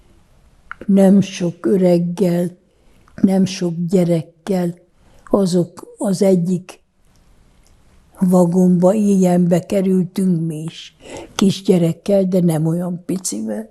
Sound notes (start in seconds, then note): none